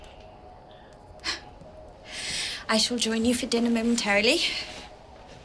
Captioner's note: sighs